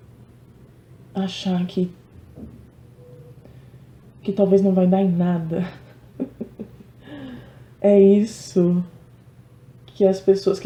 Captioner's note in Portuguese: risadas